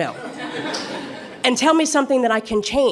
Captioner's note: laughter